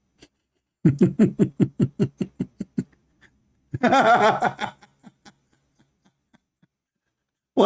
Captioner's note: Ketawa